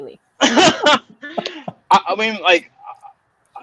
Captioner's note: laughing